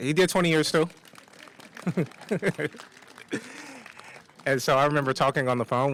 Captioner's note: applause